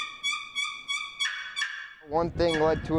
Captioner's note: box call chirps